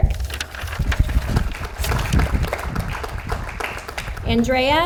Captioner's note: audience applauds